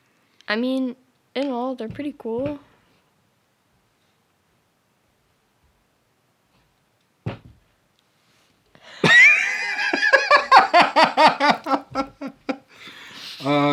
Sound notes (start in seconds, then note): 8.9 laughing